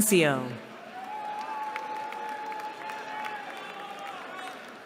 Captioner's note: cheering